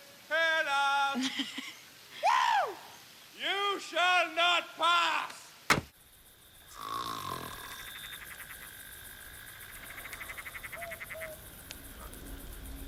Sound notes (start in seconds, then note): 0.0 sings; 1.2 laughs; 6.7 snores; 9.3 frogs croak, owls hoot